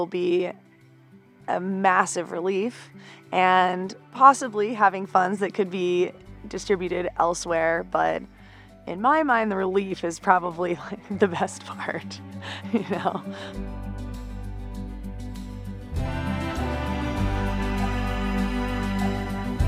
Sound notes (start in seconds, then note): 12.4 delighted laugh; 15.5 tender music